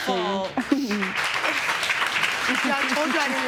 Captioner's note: audience applause